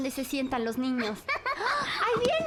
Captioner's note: laughs